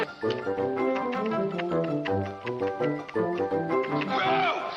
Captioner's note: tongue thwacking; hand smacking